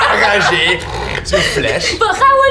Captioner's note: growling